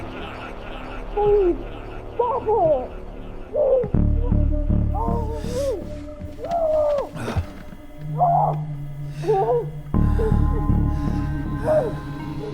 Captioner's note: "bite you" echos and swirls; evan struggling in distance